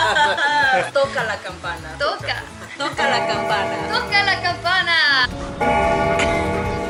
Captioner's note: speaking in foreign language; group speaking in foreign language